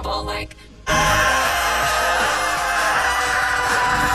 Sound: screaming

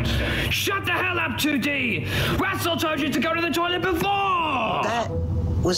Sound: yelling

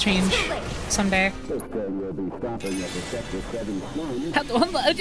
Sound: distorted Voice In-Game; stammering

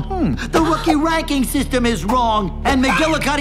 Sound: gasps

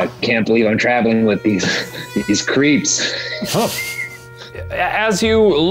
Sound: laughing

